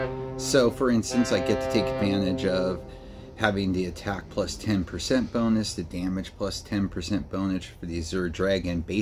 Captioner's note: boat horn